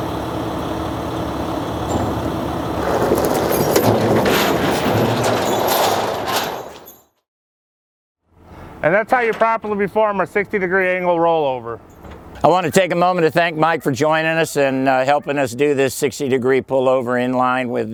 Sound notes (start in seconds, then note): 3.1 truck hitting ground; 5.0 chains rattling